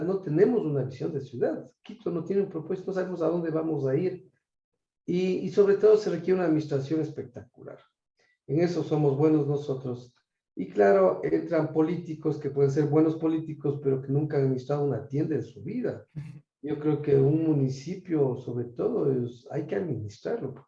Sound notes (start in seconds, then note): 16.3 laugh